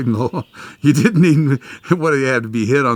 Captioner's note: laughs